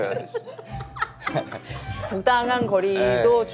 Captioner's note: giggles